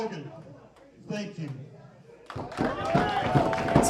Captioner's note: applause